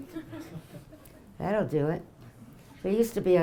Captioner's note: audience laughing